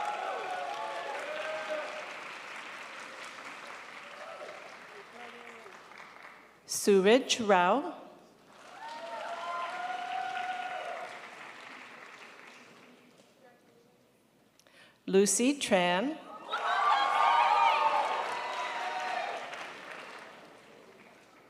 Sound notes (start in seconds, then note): 0.0 crowd applauds; 8.4 crowd applauds; 16.4 crowd applauds